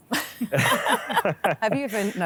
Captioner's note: all laugh